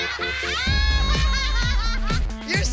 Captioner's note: laughter